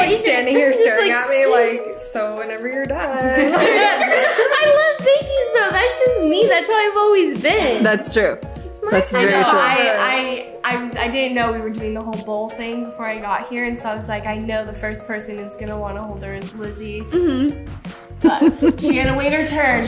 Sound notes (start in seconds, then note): 18.2 laughs